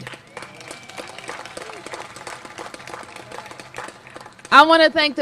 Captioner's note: applause